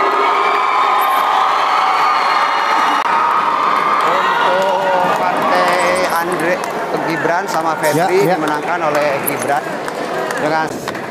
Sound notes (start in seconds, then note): 1.3 applause hand